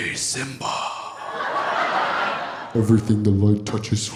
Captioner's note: audience laughing